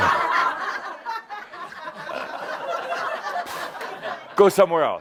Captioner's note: some chuckles